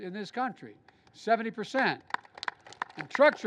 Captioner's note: applause